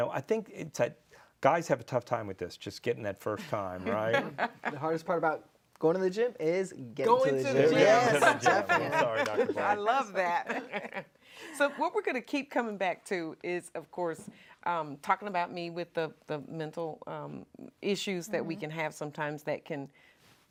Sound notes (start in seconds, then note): 7.7 group laughing